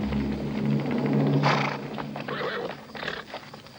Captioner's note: Iltschi snorts